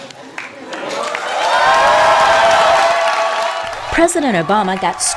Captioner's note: cheering and applause